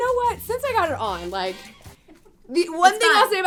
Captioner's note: laughing